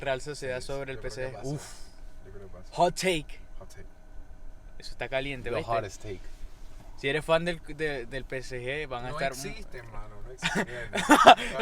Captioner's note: laughs